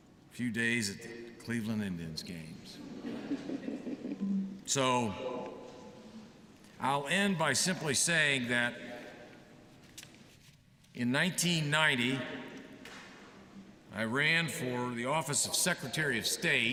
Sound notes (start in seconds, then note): 2.8 laughter